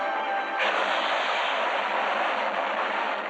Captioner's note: train crashing